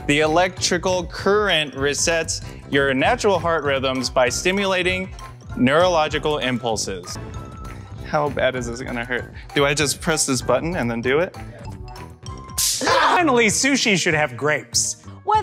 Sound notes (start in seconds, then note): 12.6 zapping noise; 12.8 screams